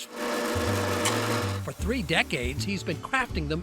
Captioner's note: machine whirring